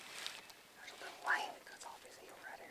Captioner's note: whispered